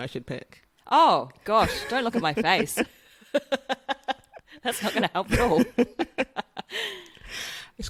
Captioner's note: laughs